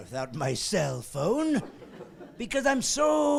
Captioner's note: laughing